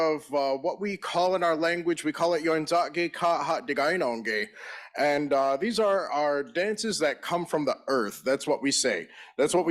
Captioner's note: in Native language